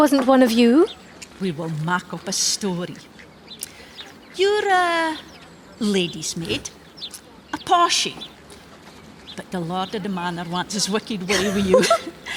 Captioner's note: both laugh